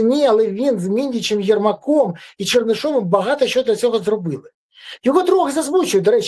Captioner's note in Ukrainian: сопіння